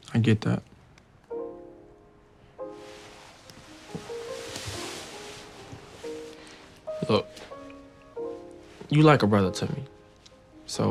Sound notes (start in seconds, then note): 1.4 gentle music; 4.5 fabric rustling